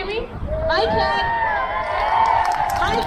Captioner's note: crowd cheers